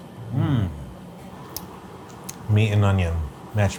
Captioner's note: both moan